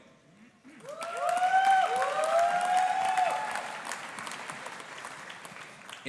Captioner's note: audience applauding and cheering